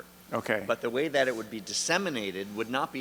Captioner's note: voiceover